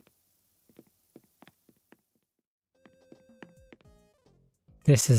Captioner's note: footsteps